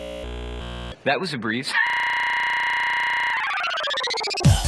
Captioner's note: laugh glitches out; laugh goes up and down in pitch simultaneously; techno music